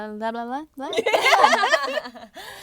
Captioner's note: girls laughing